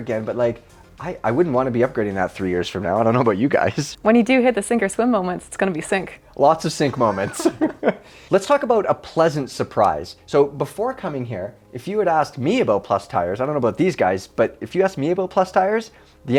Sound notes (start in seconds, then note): 3.8 chuckles; 6.9 panel laughing